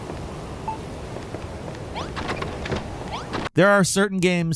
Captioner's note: beeping sound effect; pattering sound effect; door opens